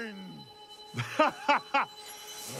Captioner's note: maniacal laughing